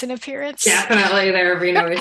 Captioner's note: laughs